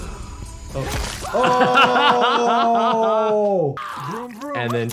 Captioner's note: video game character grunts; blood sloshes